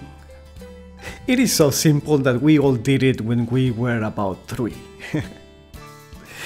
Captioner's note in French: rires